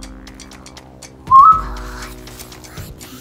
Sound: shouts; whispers

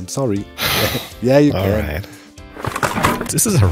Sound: sighs

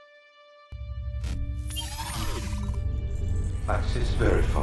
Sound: scanner whirs

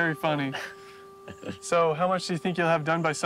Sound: Chester laughs

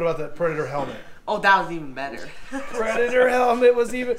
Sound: laughs

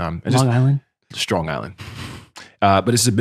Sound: chuckles

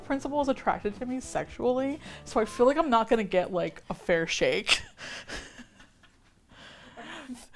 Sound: both laugh

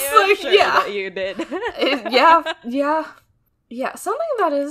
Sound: both laugh

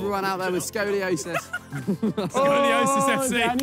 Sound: players laughs

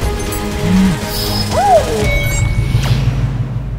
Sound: woman moaning

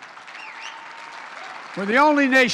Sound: applause

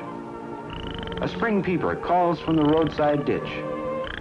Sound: frog sounds

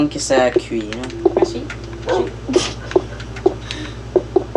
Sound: laughs

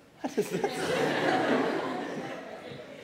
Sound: laughter

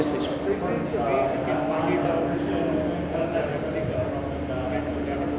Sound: audience speaks softly

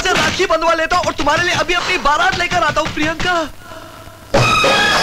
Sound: door knocks

